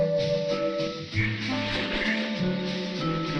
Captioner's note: light playful music continues; ducks quacking